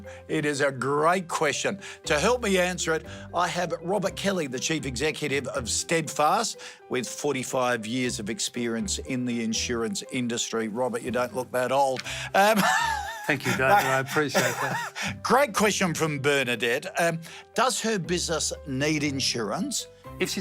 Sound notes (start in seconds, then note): 12.5 laughing